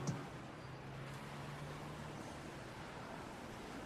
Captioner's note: city background with violent sfx